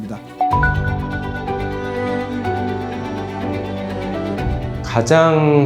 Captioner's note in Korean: 강조하는 효과음